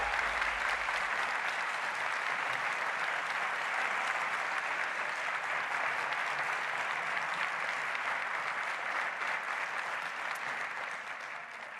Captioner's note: applause